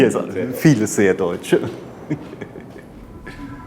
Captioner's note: laughter